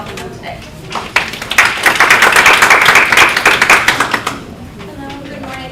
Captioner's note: applause